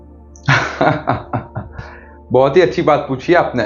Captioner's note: laughs